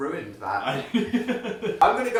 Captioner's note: laughs